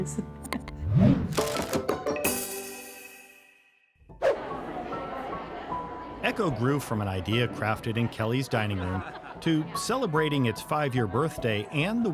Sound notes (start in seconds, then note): 0.5 upbeat music; 4.2 swoosh